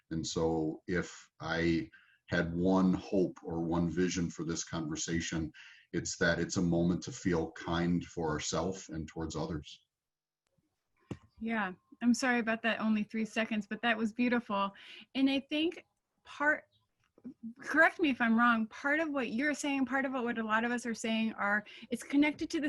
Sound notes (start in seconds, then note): none